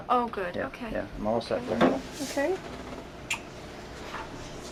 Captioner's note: kisses